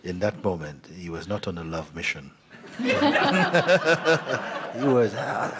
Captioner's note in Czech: smích